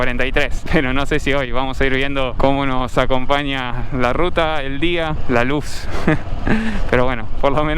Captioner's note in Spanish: risas